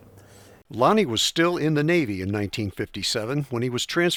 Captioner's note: voiceover